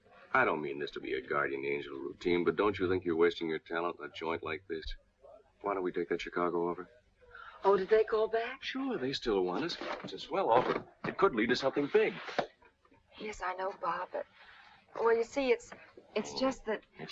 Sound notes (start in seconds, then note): none